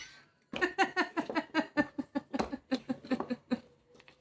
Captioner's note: laughing